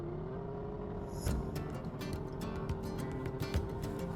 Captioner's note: engines revving; cheerful music